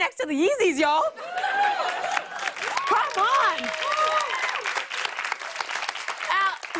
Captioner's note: cheers and applause